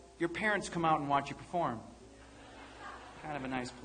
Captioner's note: audience laughing